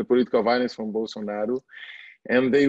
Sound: foreign language

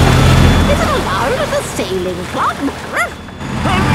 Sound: barks

